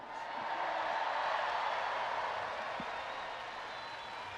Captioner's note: audience applauding